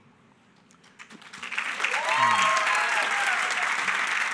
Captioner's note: applause